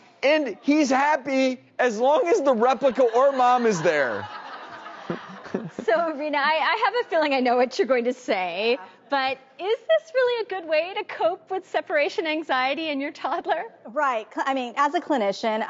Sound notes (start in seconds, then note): 4.0 audience laughs